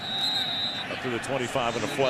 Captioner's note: whistle